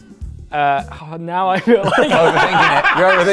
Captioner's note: laughing